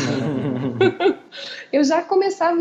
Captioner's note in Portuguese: Risos